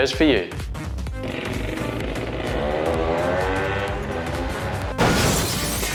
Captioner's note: 2-Stroke sounds